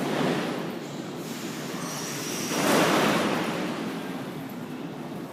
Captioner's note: closing doors